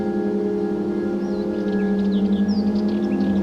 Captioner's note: birdsong